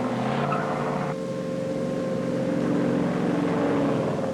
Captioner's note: air raid siren blaring